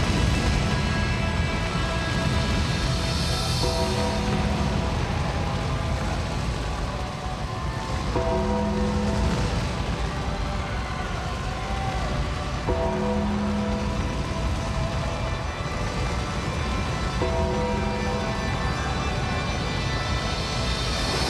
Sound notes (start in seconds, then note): 0.2 ominous music continues; 4.7 audience cheers